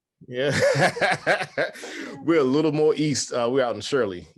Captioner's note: laughs